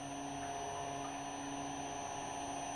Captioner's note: the machine whirrs softly